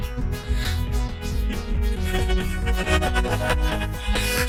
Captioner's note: laughing manically